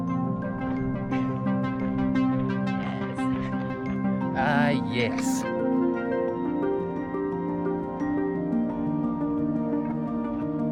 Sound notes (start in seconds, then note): 0.9 laughter